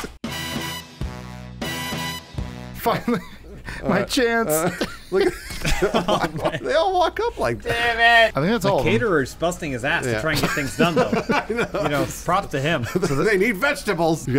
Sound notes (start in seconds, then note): 4.4 laughing; 10.3 laughing